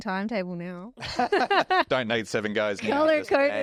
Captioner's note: laugh